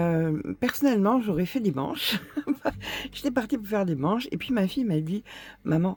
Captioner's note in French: rires